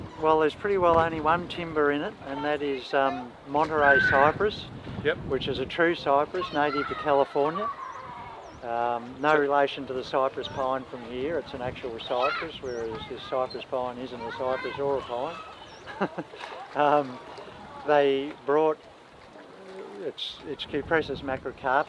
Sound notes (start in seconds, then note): 15.5 laughs